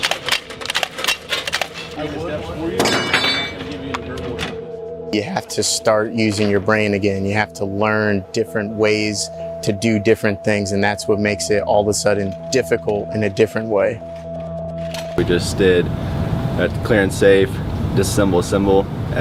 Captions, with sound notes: (metal clicking) (metal banging) (unsettling music) - You have to start using your brain again. You have to learn different ways to do different things, and that's what makes it all of a sudden difficult in a different way. - We just did a clear and safe disassemble-assemble,